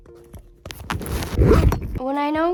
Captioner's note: camera crashes